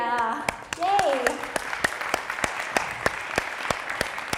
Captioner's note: all applaud